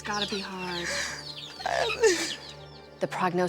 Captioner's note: sobs